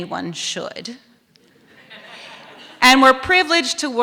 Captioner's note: laughter